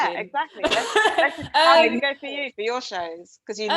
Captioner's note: laughs